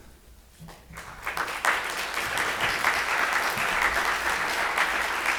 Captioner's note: audience applauds